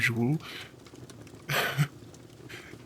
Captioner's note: Snape chuckles